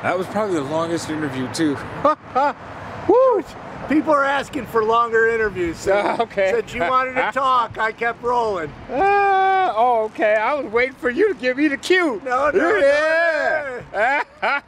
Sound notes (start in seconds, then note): 8.9 laughing; 12.4 laughing